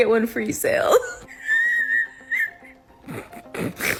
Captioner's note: laughs